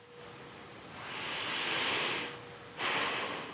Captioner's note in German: Tiefes Atmen